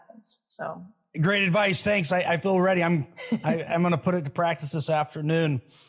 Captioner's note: laugh